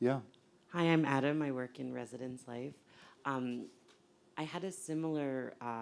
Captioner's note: voiceover